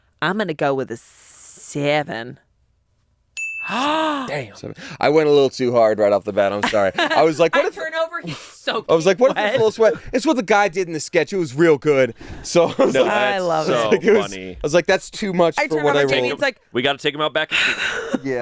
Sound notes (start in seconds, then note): 3.4 bell rings; 3.7 gasps